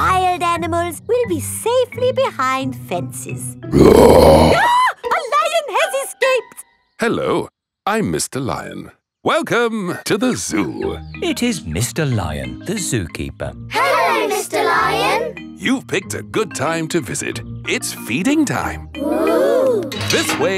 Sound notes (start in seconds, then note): 3.7 roars; 3.8 screams